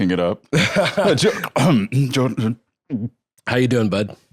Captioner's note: coughs, stammers